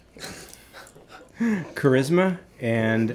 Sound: laughing

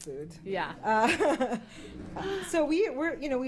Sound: chuckles

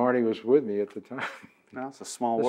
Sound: laughs

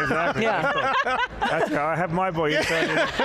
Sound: all laughing loudly

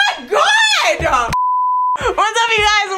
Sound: beeping sound

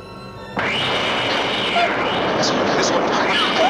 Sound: crying

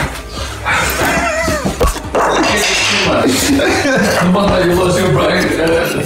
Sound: laughing

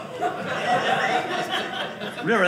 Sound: audience laughing

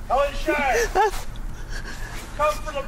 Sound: Helen gasps

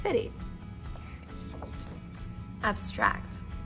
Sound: page flip

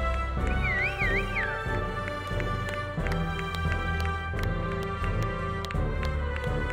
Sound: audience applauding; audience whistling

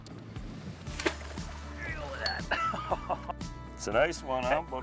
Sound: water splashing

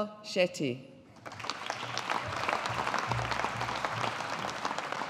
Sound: audience applauding

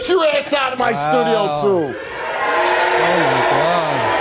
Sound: audience cheers

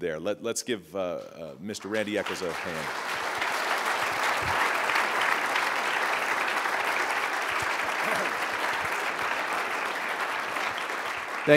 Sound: applause

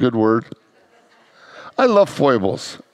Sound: congregants laugh

